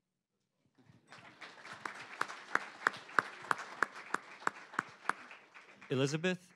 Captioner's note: applause